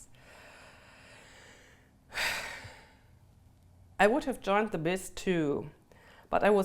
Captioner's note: sighs